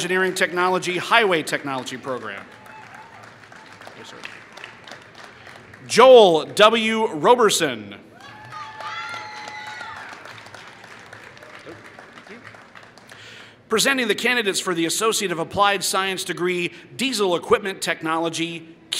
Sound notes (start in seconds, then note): 2.7 applause; 8.2 applause